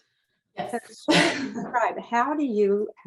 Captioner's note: laughs